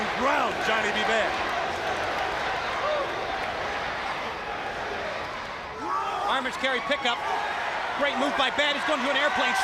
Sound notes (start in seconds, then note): 2.0 crowd cheering